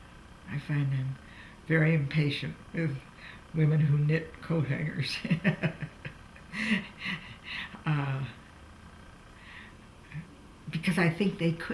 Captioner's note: laughs